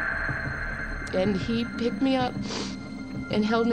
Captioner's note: sniffles